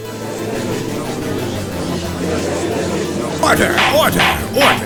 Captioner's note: gallery chattering